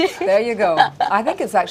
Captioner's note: laughing